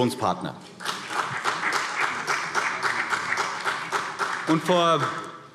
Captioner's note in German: Beifall CDU